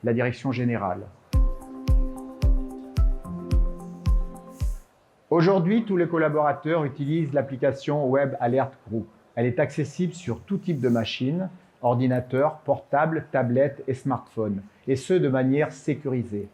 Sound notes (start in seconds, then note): 5.1 speaking french